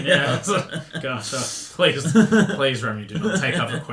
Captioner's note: laughing